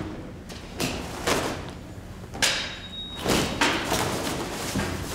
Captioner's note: tools banging